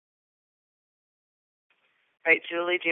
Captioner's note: silence